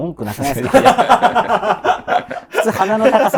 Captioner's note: laughing